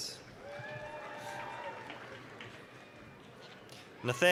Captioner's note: applause, cheering